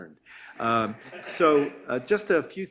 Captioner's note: audience laughs